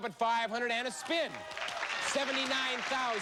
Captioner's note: cheers and applause